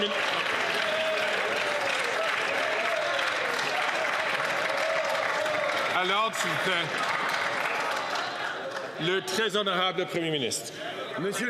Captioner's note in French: applaudissements